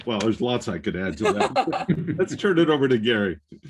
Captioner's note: laughs